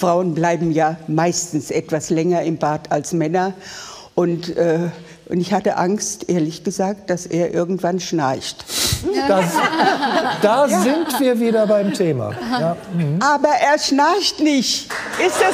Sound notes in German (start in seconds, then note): 9.1 Lachen